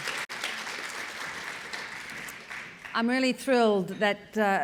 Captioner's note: audience applauding